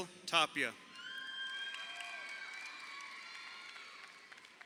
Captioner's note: crowd cheering